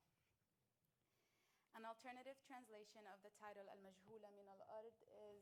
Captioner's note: speaking arabic